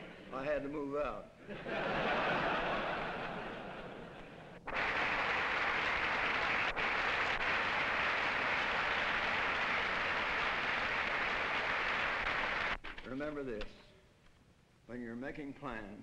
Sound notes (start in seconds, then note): 1.4 laughter; 4.6 applause